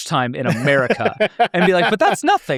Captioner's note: laughs